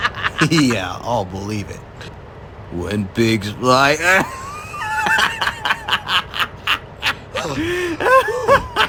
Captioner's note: laughs; laughs